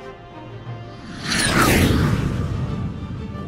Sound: jet fly

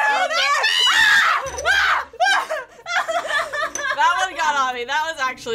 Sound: both screaming

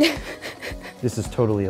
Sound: laughing

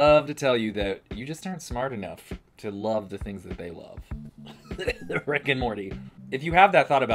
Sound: cough- Rick and Morty

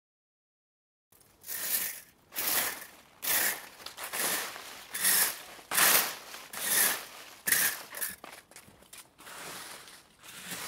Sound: sound of raking leaves

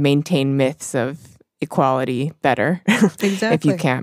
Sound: chuckles

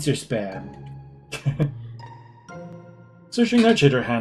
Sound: chuckles

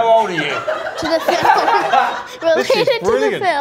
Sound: laughing heavily

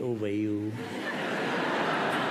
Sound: laughter

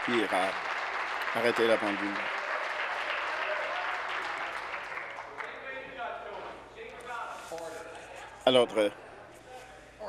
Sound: applause

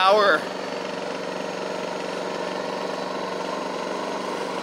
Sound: machine roars

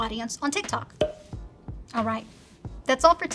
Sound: popping

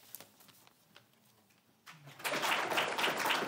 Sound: applause

